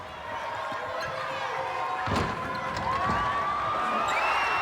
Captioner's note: crowd cheering